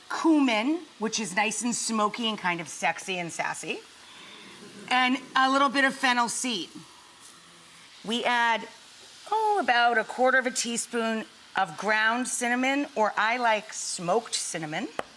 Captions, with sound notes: Cumin, which is nice and smoky and kind of sexy and sassy. (audience chuckles) And a little bit of fennel seed. We add, oh, about a quarter of a teaspoon of ground cinnamon or I like smoked cinnamon.